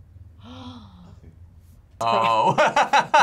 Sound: gasps; laughs

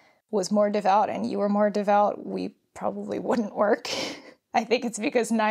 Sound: laughs

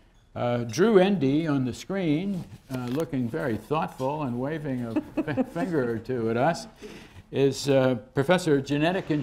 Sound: laughter

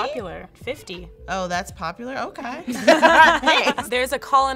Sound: all laughing

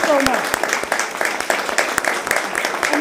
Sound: applause

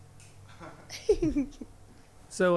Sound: band members laughing

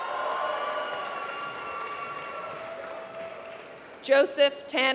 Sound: applause

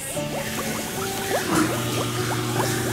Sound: running water

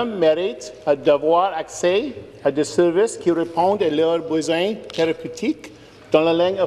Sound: speaking in French

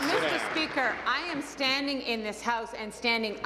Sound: applause

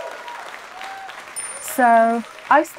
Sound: crowd cheering; bell chimes

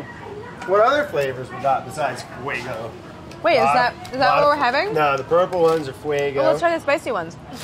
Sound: none

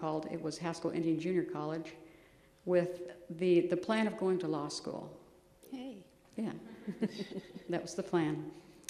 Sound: laughs

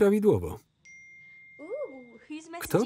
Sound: phone pings

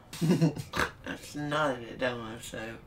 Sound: laughs, snorts

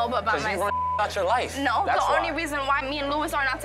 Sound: beep

